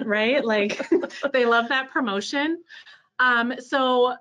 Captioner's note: laughing